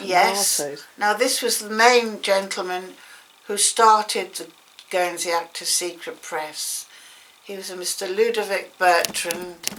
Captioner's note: gasp